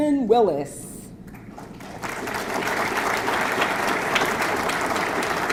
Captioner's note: audience clapping